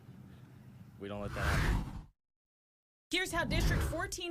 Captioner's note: air whooshes